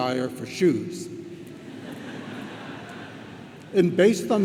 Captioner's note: audience laughs